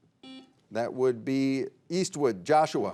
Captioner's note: buzzer beeping